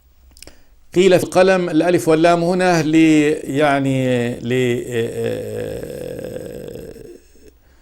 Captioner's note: in Arabic